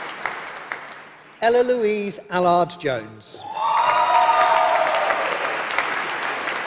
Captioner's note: applause